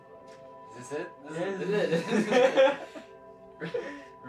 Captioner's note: laughs